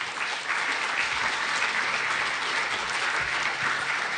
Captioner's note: applause